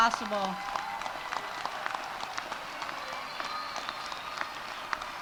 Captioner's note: audience applauding